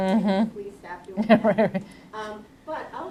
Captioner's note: laughs